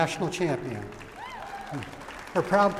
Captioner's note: applause